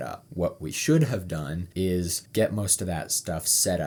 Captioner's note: none